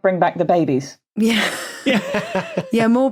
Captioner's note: laughs